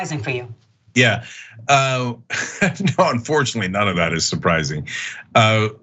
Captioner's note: laugh